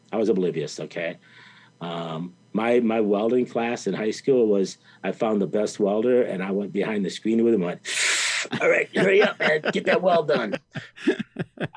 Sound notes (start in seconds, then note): 7.9 sucking in air sound effect; 8.0 interviewer laughing